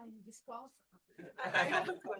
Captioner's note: laughter